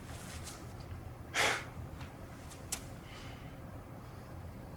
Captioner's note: Joseph scoffs